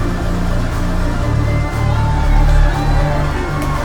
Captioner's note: cheering